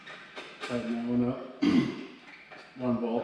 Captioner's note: clears throat